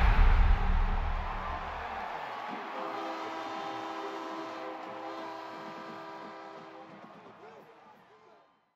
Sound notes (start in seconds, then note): 0.0 cheering; 2.6 horn blowing